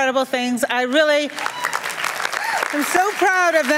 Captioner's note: applause and cheers